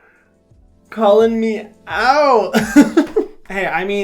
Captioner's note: laughs